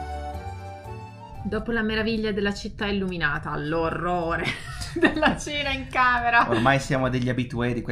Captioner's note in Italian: risate